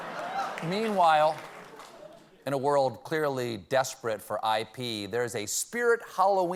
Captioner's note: laughter